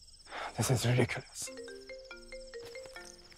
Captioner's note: Phone ringing